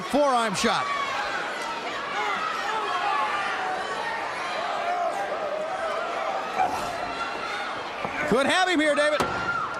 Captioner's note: crowd chatter